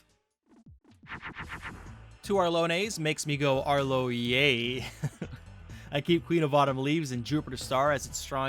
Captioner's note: laughs